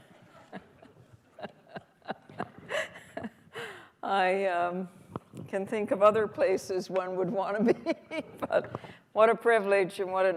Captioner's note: laughter